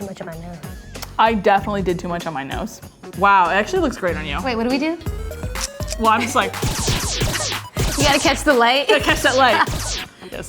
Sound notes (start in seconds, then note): 6.4 clicking; 6.4 laser blasting